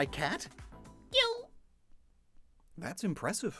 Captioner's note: Fakemon cry